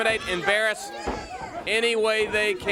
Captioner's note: crowd chatter